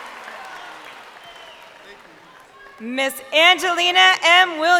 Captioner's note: crowd cheering